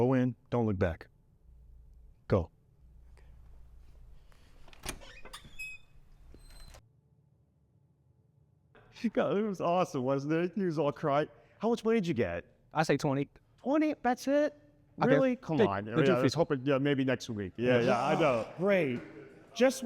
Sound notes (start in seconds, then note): 4.4 door creaks